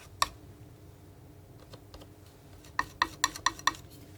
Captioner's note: tapping on paint